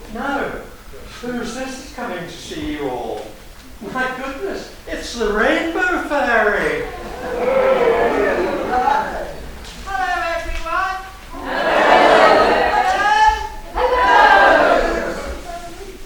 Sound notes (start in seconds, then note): 6.4 audience cheers Rainbow Fairy